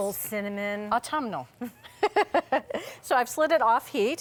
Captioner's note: laughs